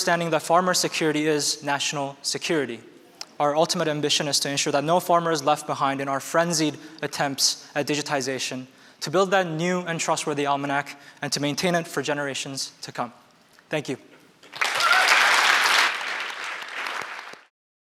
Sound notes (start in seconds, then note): 14.4 applause